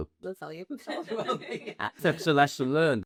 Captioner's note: laughter